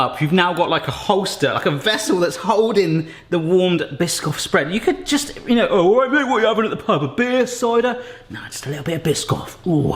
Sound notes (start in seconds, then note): 6.4 stammering